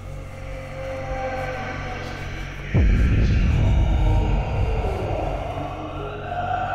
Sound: loud monster noises

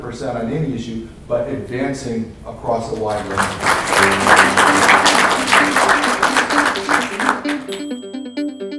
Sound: applause

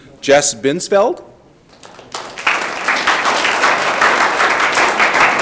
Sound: audience clapping

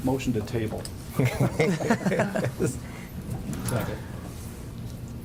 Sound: group chuckles

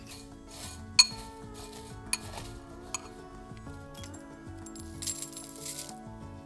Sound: tea leaves rustle

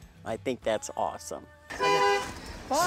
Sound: car horn

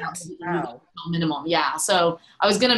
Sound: audio glitch

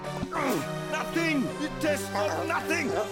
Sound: grunting

